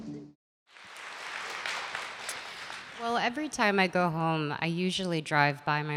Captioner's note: applause